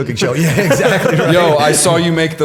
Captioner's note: laughter